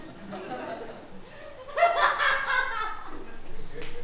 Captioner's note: Lady Hwnag laughs